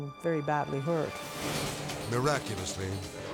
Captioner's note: dramatic whoosh